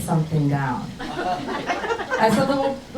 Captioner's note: crowd laughs